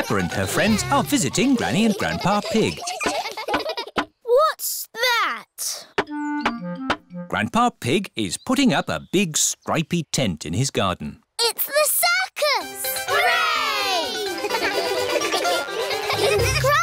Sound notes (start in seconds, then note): 3.4 all giggling; 14.2 all giggle